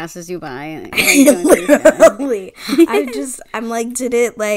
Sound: laughs

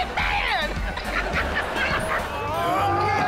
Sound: laughing

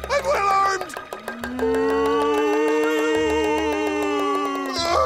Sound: moaning

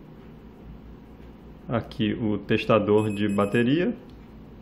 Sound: buzzer

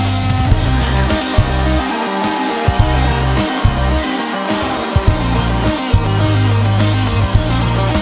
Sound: audience cheers

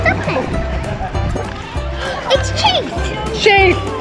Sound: gasps

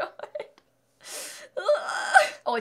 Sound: scream x2

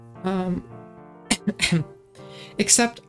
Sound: cough

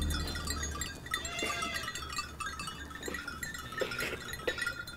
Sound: goats bleating

